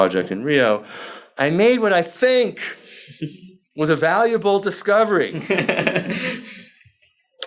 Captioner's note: laughs